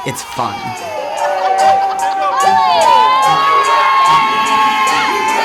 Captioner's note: cheering